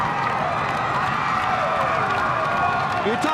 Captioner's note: crowd cheering